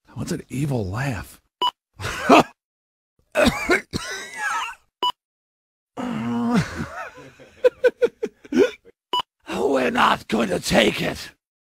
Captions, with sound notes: GOL What's an EVIL laugh? GOL HA! GOL *coughs again* GOL Ahn... *chuckles* GOL We're not going to take it!